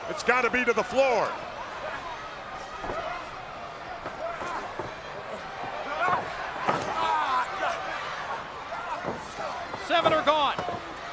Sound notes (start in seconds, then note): 1.5 crowd yelling; 4.5 wrestlers grunting